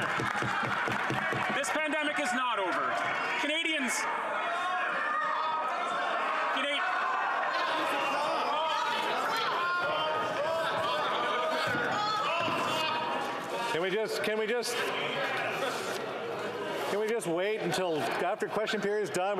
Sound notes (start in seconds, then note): 7.2 yelling